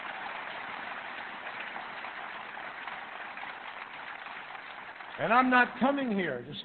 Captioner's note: applause